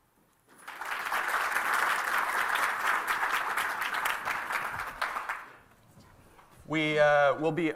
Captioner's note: applause